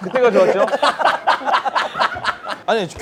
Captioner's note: laughing